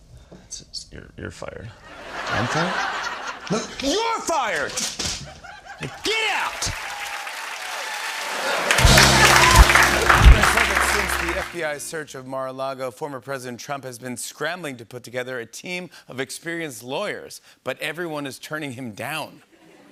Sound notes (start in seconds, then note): 4.4 pad thuds; 6.0 cheers and applause